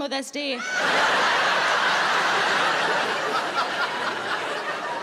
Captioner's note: audience laughing